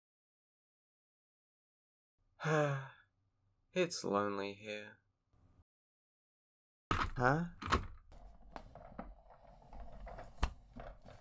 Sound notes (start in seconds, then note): 2.4 sigh